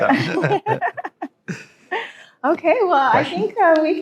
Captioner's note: laughing